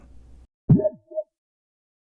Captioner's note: boop!